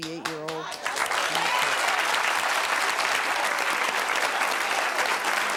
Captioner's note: audience applauding